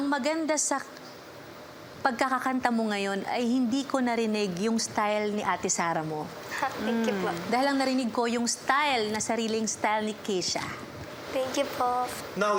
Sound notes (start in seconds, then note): 6.8 chuckles